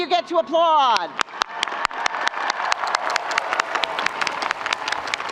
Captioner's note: audience applauding